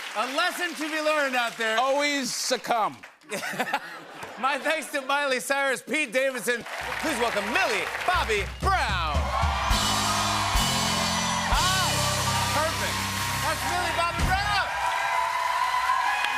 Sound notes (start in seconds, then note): 9.5 cheers and applause; 14.7 cheers and applause